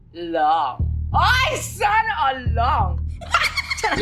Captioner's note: laughs